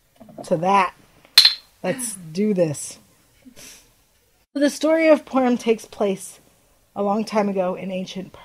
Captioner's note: glasses clink